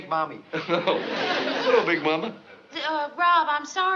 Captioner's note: chuckles